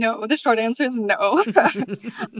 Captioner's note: laughter